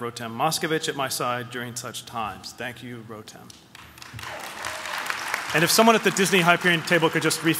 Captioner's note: applause